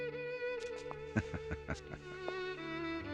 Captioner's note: laughing